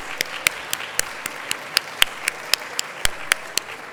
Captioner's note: applause